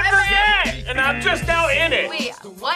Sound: buzzer buzzing

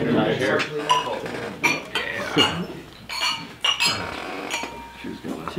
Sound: glasses clinking

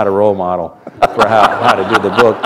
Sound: laughter

